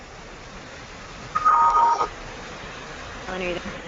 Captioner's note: beeping noise